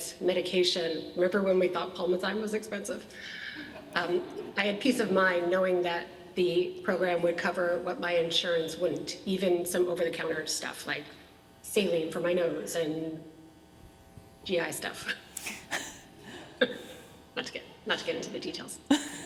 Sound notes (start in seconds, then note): 15.4 chuckles